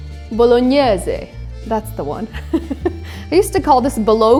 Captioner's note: chuckles